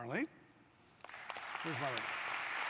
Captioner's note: applause